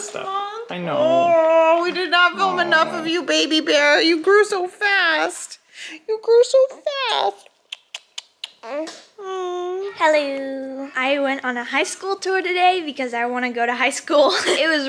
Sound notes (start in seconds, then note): 7.0 kiss noises